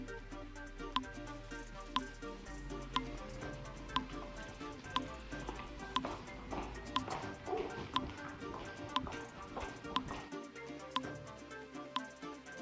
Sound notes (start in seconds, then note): 0.2 timer whirring; 7.3 feet clopping